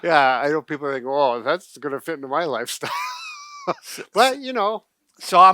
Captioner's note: laughs